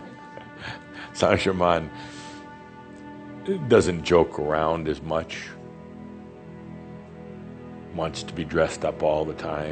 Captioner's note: Adamus chuckles